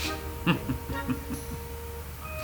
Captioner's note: giggles